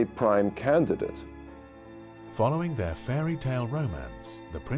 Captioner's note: voiceover